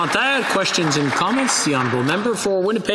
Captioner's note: applause